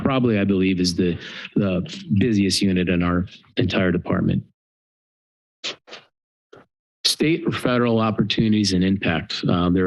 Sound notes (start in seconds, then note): 4.5 pause